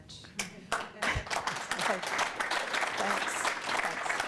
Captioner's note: audience clapping